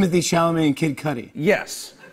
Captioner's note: laughter